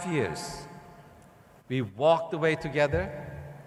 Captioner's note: none